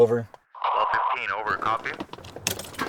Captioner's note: dispatch radio; car engine starting